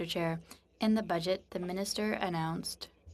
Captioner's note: speaking French